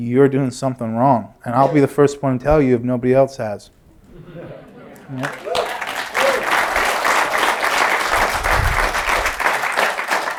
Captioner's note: applause